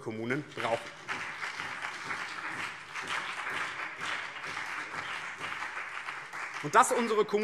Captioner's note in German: Beifall BÜNDNIS 90/DIE GRÜNEN und CDU